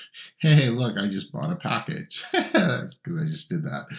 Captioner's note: chuckles